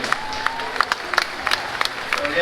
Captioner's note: applause